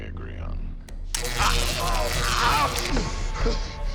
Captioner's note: zapping, screaming